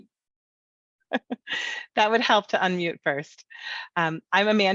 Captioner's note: laughs